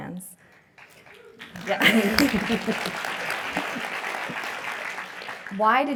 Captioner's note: applause